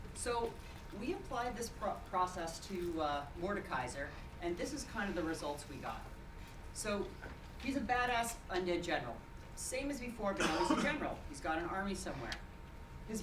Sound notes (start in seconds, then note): 10.3 speech drowned by cough